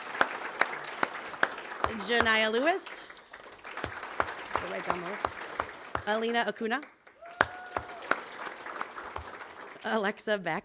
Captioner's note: applause